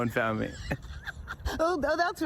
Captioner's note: both laugh